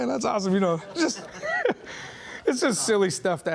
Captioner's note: laughing